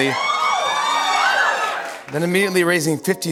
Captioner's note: cheers and applause